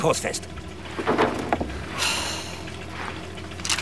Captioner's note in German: Widerwilliges Seufzen